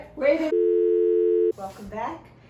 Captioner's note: dial tone